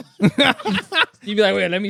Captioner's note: laughing